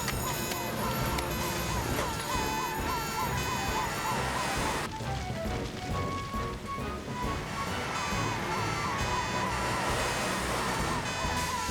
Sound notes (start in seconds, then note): 1.1 sirens Blaring; 6.0 heroic Music